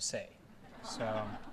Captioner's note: brief laughter